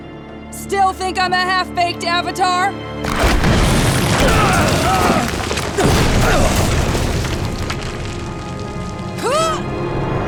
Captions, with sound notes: Still think I'm a half-baked Avatar? [screaming] [grunting] [grunting]